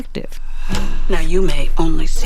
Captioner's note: soundbite of film, "everything everywhere all at once"